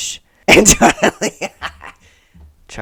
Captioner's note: laughter